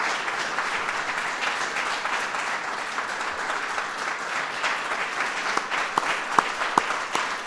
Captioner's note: applause